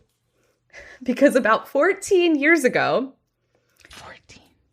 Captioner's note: whispers